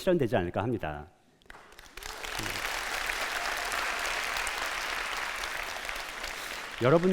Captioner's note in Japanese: 拍手